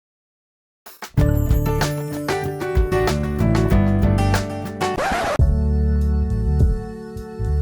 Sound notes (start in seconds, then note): 1.1 instrumental music; 4.9 record scratch; 5.9 neo-soul music